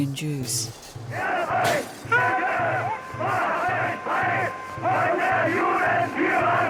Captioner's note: ominous music; crowd shouting